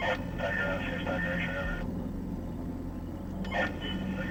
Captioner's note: radio chattering